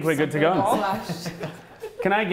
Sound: laughing

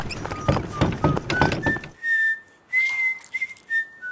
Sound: whistling

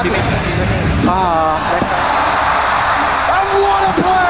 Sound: crowd cheering

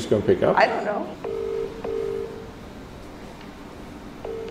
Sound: phone rings

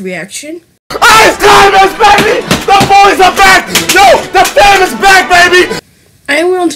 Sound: Etika screaming like a maniac

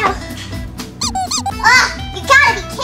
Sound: assistant squeaking

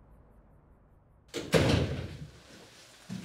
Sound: door closes

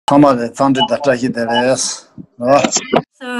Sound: foreign language

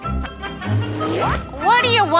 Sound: zooming

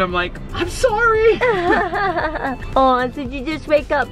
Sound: laughing

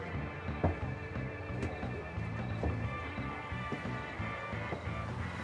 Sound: footsteps clatter slowly

